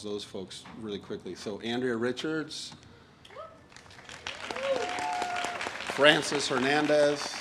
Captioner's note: audience applauds and cheers